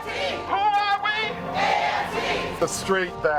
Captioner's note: crowd